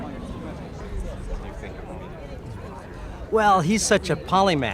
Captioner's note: indistinct chatter